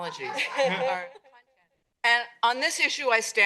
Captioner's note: laughter